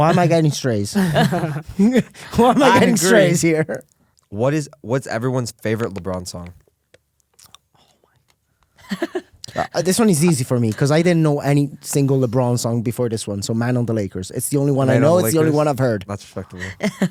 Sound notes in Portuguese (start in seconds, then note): 0.9 risos; 8.8 risos; 16.6 risos